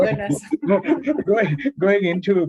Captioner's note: laughs